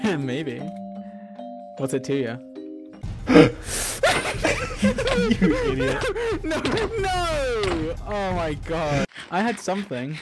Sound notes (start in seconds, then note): 3.2 gasps